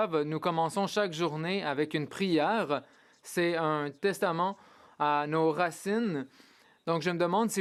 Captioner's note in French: voix de l'interprète